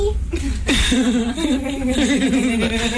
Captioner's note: laughing